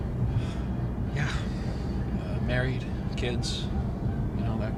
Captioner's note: sighs